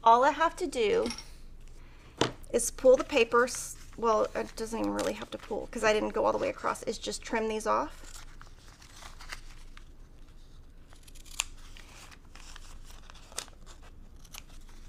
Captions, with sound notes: all I have to do is pull the papers. Well, it doesn't even really have to pull, 'cause I didn't go all the way across. It's just trim these off. (paper cutting)